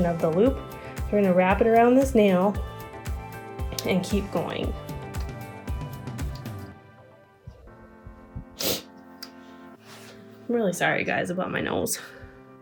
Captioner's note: sniffles